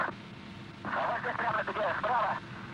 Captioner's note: radio Chatter